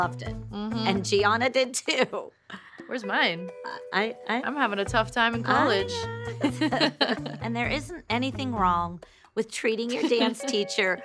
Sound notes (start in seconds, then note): 5.6 both laugh